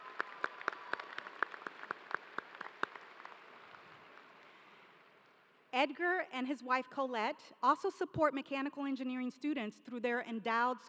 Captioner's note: applause